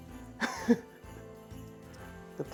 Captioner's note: chuckles